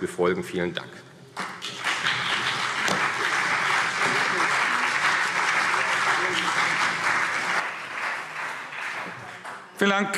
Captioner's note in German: Beifall CDU und BÜNDNIS 90/DIE GRÜNEN